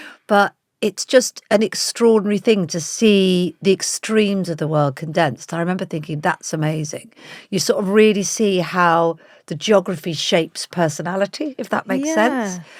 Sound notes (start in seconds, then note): none